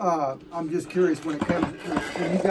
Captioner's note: chair creaking